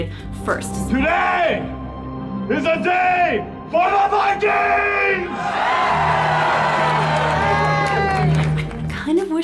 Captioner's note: screaming